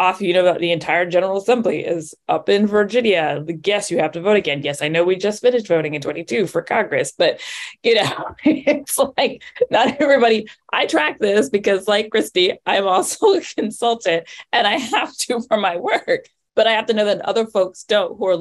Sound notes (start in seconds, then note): 9.4 laughs